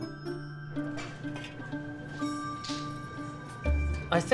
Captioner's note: dishes clank